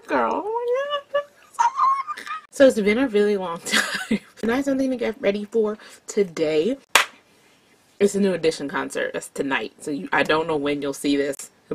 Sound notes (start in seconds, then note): 3.8 chuckles; 6.9 loud hand clap